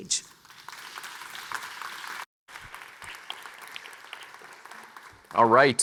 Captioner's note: audience members clapping